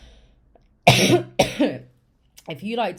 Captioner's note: coughs